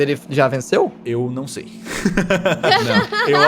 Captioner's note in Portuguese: risos